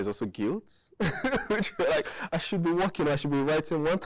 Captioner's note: laughing